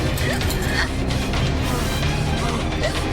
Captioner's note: frantic clanging; muted gasps